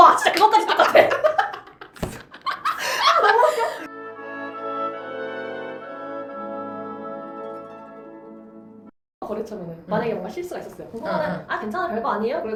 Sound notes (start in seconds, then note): 2.1 laughs